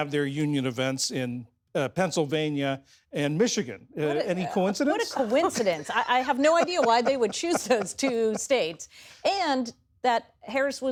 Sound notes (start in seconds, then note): 9.3 laughter